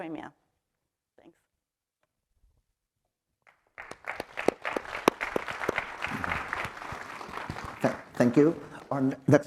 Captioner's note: applause